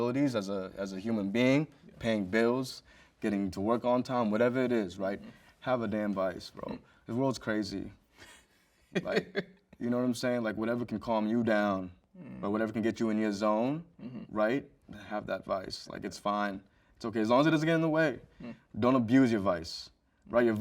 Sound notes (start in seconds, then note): 8.9 host chuckles